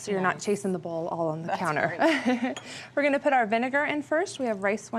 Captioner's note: chuckles